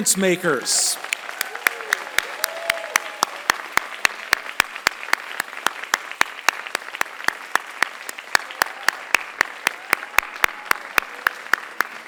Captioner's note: applause